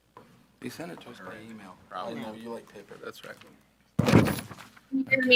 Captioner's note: school board chattering